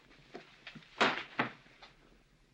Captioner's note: smack